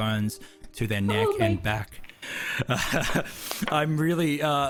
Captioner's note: emotional breath